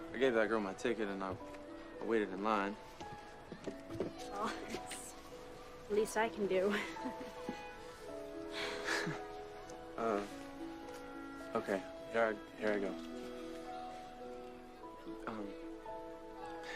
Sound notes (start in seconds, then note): 6.7 chuckles; 8.0 Viola and Duke exhale